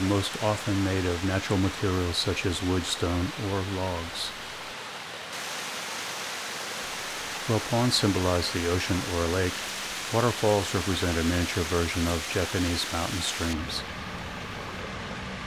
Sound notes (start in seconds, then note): 8.6 waterfall sounds